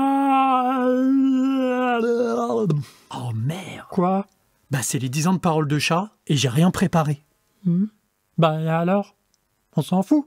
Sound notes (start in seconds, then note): 0.0 yawns loudly